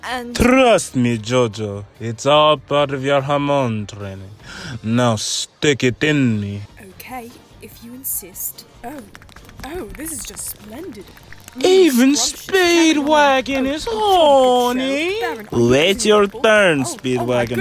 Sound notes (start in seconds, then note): 11.4 moaning; 11.5 in the background, still moaning